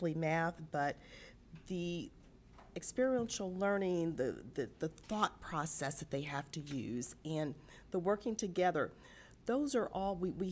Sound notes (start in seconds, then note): none